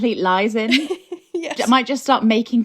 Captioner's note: laughing